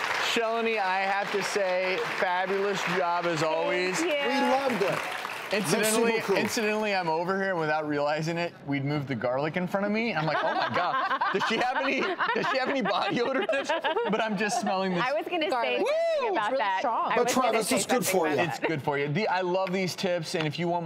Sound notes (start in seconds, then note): 5.6 speaking in foreign language; 10.2 laughing